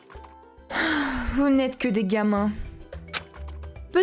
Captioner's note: sigh